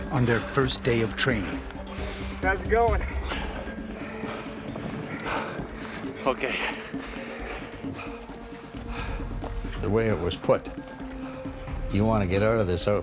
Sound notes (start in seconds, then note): 2.6 voiceover; 3.5 panting; 10.0 voiceover